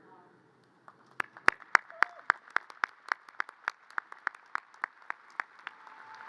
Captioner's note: audience cheers and applause